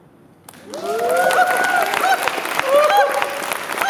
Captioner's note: cheering